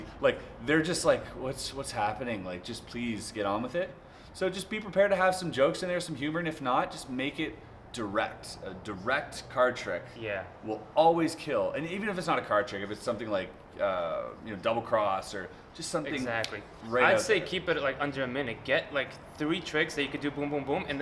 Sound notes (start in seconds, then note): 16.4 snaps